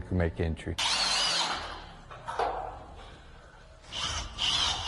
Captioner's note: drill bit grinding